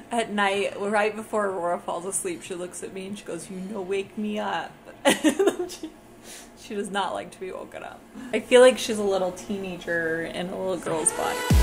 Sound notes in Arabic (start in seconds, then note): 5.0 يضحك